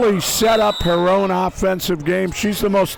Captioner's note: whistle blows